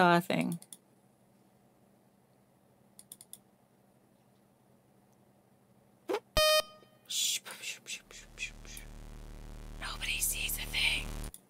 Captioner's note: game beep; whispers; game loud sound